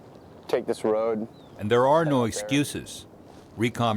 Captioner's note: voiceover